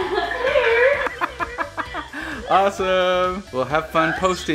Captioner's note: laughs